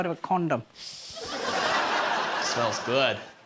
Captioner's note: inhales deeply